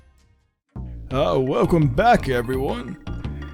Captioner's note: old man voice